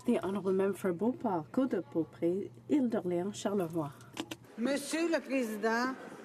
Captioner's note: speaking French